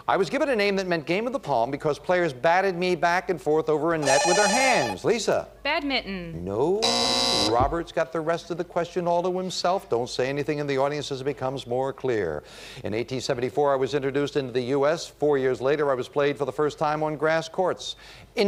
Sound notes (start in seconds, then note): 6.8 buzzer